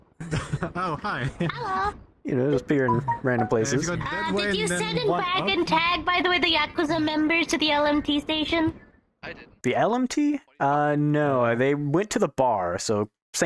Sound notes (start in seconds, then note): 0.4 laughs; 2.8 WhatsApp notification sound